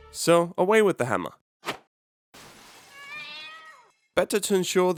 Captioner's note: glass breaks, cats screeches